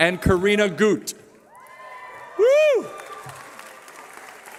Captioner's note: cheering